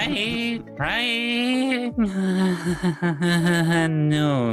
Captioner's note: laughing